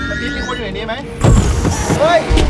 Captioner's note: machine moves